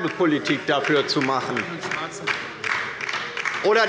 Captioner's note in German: Beifall bei der LINKEN - Zuruf